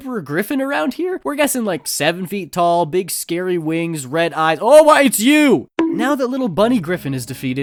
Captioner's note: bonk